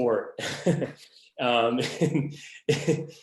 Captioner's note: laughs